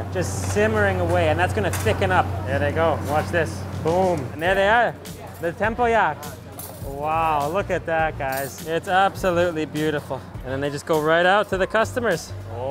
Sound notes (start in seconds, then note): 6.5 cutlery clinks